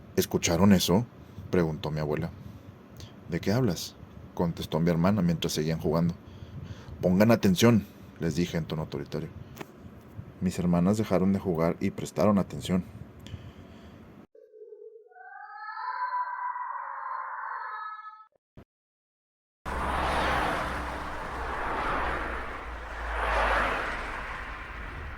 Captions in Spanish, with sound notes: "¿Escucharon eso?", preguntó mi abuela, "¿De qué hablas?", contestó a mi hermana mientras seguían jugando. "Pongan atención", les dije en tono autoritario, mis hermanas dejaron de jugar y prestaron atención [Sonido de mujer llorando y gritando a lo lejos] [Sonido de autos circulando en carretera a alta velocidad]